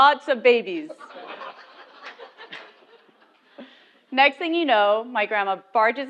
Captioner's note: laugh